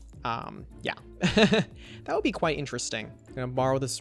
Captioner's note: laughs